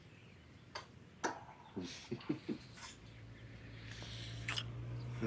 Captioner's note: bumps soda can